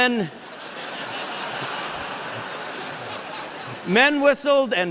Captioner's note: laughter